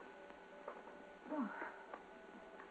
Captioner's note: sighs